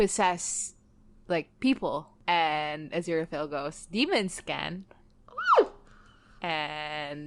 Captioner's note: screams